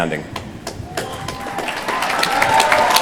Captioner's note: applause